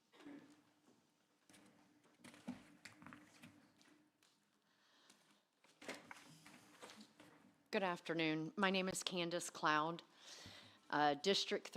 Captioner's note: lapse in audio